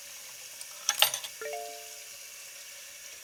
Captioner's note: phone chimes